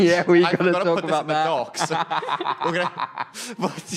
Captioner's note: laughter